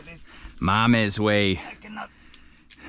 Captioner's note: speaking in foreign language